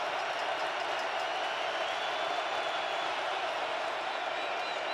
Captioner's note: cheering